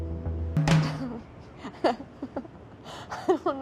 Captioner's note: chuckling